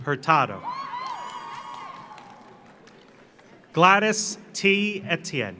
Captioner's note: audience cheers; audience applauds